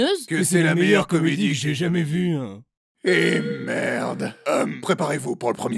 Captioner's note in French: à l'unisson